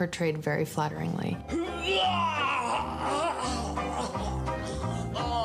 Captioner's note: grunting